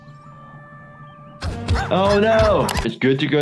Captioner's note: happy music; animal grunting